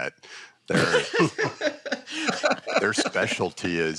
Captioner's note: laughter